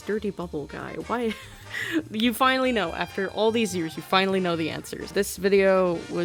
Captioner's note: laughs